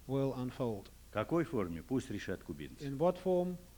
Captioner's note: non-english speech